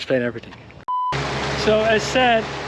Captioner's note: beeping sound